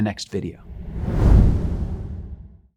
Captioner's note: air whooshing